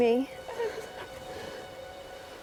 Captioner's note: Sophia cries